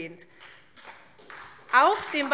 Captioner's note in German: Beifall SPD